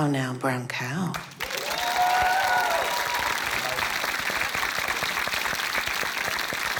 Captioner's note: cheering, applause